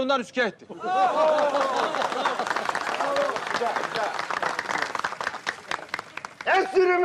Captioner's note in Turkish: Alkış sesleri